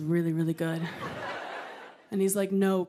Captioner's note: laughter